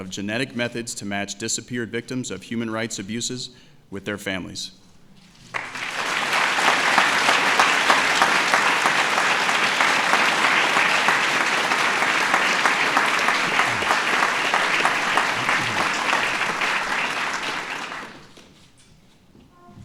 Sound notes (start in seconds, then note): 9.0 applause